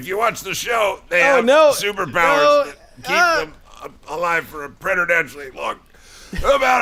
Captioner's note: choking